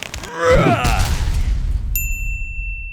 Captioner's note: stone slamming; man yelling; bell dinging